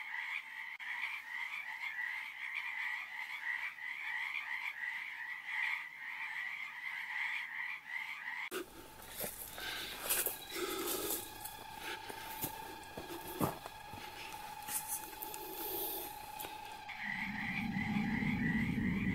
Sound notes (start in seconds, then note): 9.2 breathes deeply; 17.4 animals growl